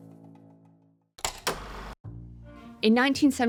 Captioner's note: film reel clacking